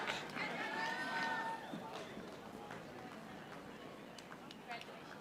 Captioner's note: audience applauding